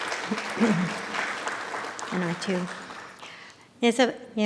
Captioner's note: audience applauding